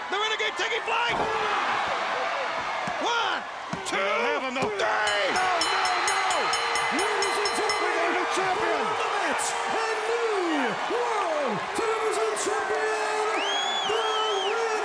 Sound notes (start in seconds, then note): 5.6 bell ringing; 6.1 crowd cheering